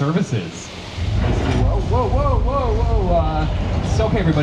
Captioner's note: building rumbles